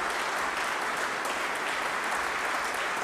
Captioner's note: applause